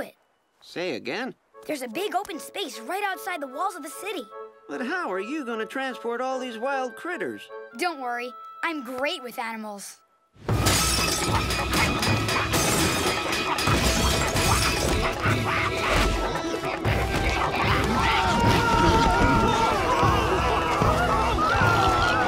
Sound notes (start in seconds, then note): 10.7 shattering, grunting; 14.4 grunting; 17.5 screaming